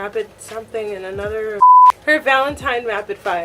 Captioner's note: beep